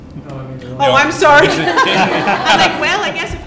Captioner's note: laughs; laughter